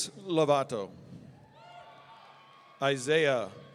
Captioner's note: audience cheering